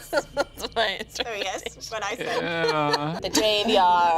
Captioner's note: laughing